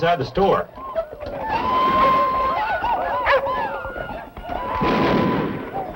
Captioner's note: whooping and shooting continues